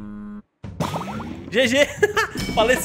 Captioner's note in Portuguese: risos